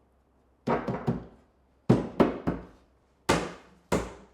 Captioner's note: wood bangs